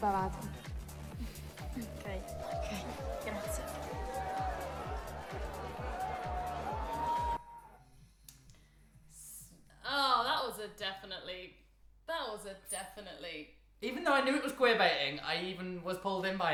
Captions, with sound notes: (group cheering) - Ah, that was a definitely, that was a definitely-- - Even though I knew it was queerbaiting, I even was pulled in by it,